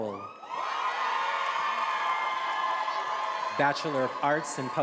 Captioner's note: attendees applauding and cheering